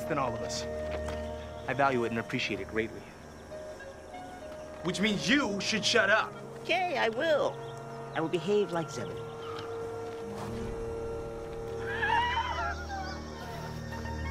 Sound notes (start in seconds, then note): 10.6 woosh; 11.9 laughing